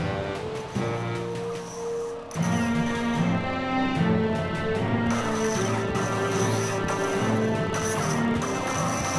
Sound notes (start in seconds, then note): 5.0 lightsabers crashing